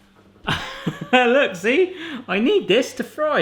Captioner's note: laughs